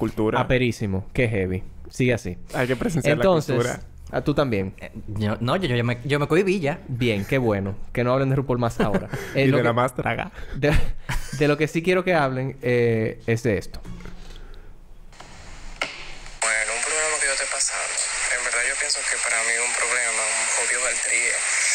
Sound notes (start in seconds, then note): 0.5 sarcasm; 9.0 laughs; 11.8 laughs